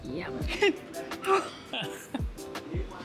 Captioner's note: grunts; laughs